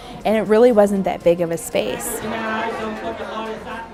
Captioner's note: casual chatter